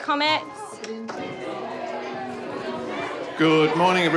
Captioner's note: children chatter